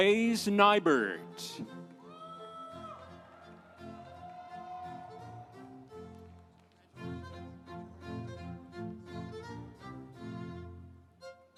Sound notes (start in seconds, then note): 2.1 audience cheering; 2.6 instrumental music